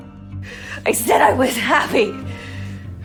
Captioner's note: voiceover; shouting